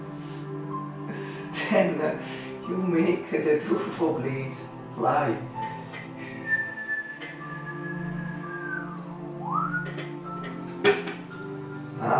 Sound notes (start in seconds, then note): 9.3 whistle